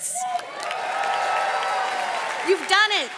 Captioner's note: audience cheers and claps